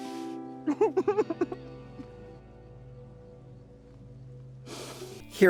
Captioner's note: adorable giggling